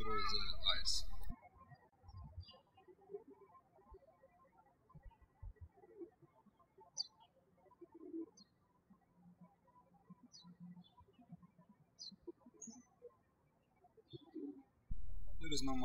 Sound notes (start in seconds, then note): 3.0 birds chirping